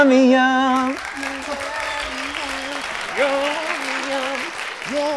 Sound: audience cheers

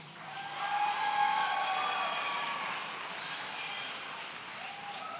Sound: audience cheering

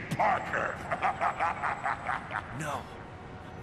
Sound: Venom laughs even more

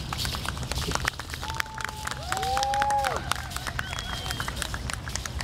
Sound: audience applauding and cheering

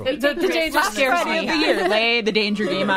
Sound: all laughing

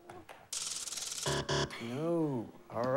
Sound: buzzer

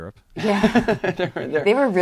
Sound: laughing

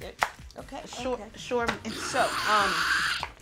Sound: laughs

